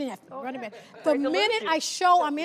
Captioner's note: laughing